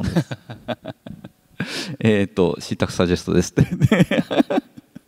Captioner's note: chuckles